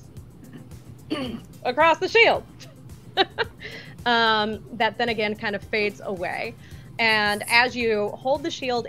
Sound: laughs

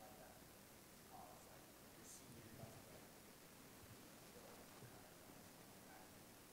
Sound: speaks quietly

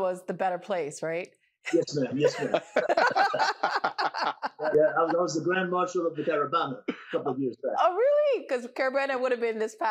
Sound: laughter

